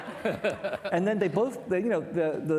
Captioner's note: laughing; participants laughing